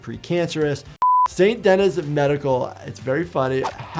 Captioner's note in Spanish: pitido de pantalla